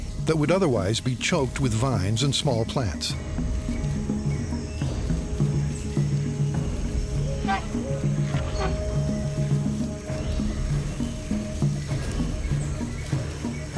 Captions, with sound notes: that would otherwise be choked with vines and small plants. [elephant trumpets] [rhythmic music]